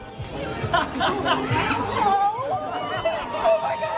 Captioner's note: laughter, cheering